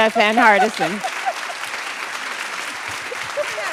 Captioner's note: laughter, applause